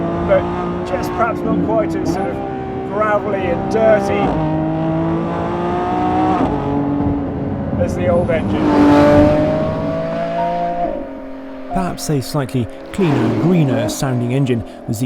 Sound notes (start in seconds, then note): 4.6 car roaring; 8.8 car engine roaring; 8.8 gentle instrumental music